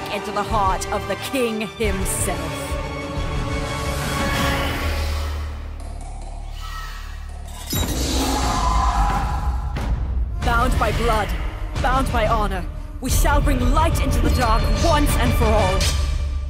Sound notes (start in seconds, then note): 4.3 vampire hisses; 6.4 screech echoes; 8.0 vampire screams